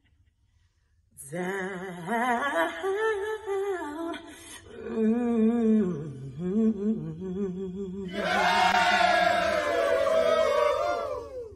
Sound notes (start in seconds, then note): 8.1 cheering